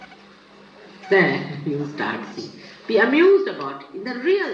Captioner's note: laughter; Shri Mataji laughs